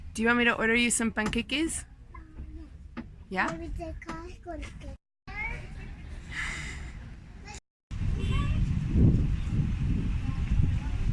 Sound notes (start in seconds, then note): 1.3 speaking Spanish; 4.2 speaking Spanish